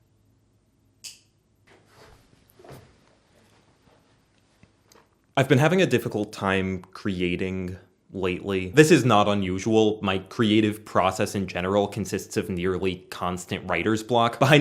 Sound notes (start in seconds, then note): 1.0 lamp click